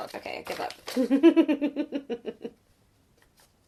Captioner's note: laughs